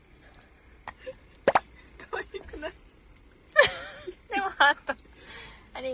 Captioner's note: laughs